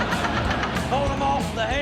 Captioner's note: audience laughs